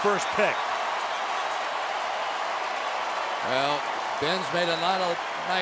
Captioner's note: crowd cheering